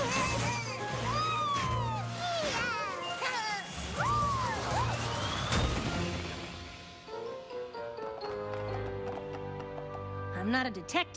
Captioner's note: laughingng